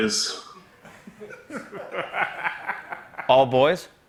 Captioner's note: laughter